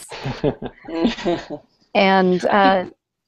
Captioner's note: laughter